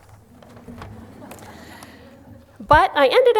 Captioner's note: chuckling